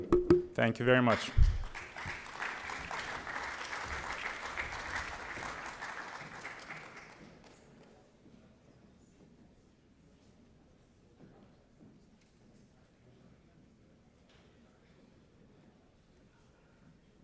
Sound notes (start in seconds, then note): 1.0 applause